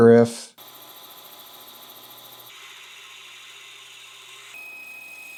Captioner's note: machinery whirring